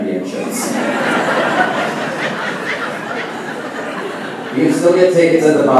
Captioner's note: laughing